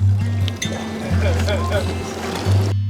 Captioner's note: laughing